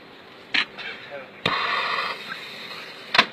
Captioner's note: firework lighting; cover clicking